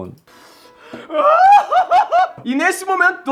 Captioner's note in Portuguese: gritando